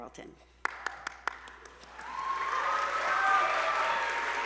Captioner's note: attendees applauding